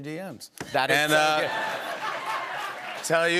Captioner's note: laughter